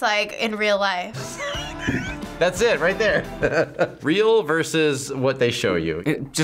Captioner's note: laughs